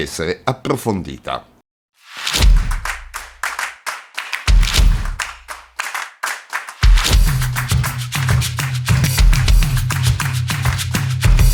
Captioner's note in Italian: Applauso